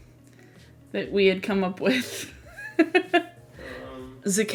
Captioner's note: laughs